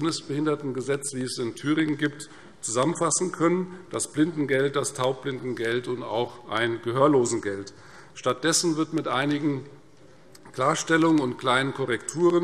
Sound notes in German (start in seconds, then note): none